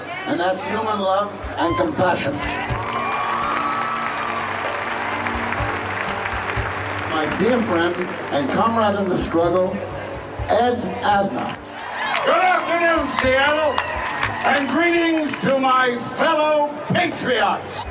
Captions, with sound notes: and that's human love and compassion. (all cheering) (all applauding) My dear friend and comrade in the struggle, Ed Asner. - Good afternoon, Seattle! (audience cheering) And greetings to my fellow Patriots.